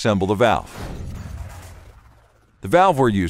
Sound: metal clanking

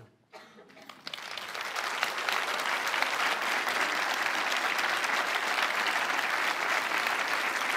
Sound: applause

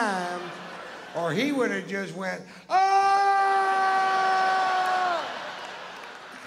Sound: screams

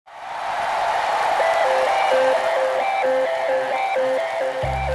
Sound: cheering

